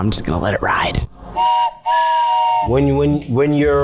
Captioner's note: whistle blows